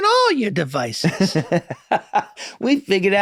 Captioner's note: Glenn laughs